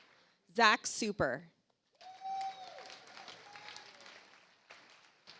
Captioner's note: audience applauds